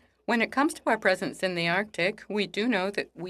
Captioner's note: speaking French